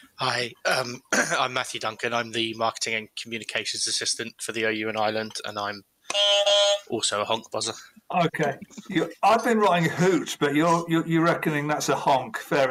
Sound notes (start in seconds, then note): 6.1 beep, beep